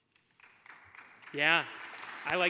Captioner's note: audience applauding